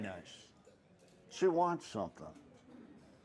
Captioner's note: chuckles